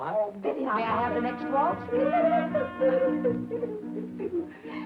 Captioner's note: Billy humming